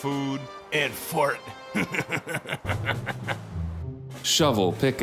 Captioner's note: laughs